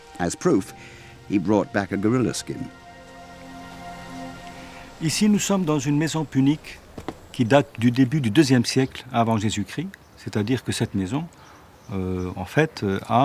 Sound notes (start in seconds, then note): 5.0 speaking French